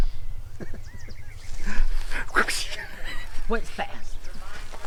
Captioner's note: laughs